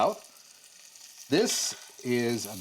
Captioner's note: sizzling